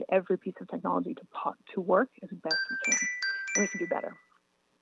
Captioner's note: chime